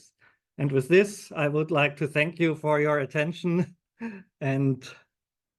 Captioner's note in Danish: chuckles